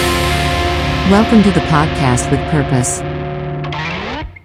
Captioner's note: computer Voice